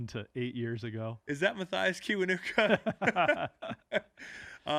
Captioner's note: laughing